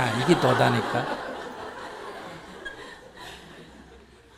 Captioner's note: audience Laughter